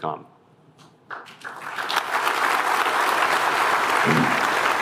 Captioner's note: applause